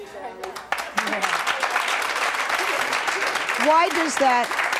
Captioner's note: audience clapping